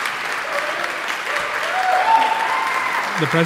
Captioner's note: audience cheering